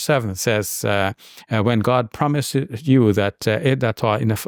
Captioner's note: speaks in Arabic